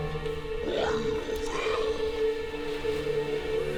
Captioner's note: speaks in demonic language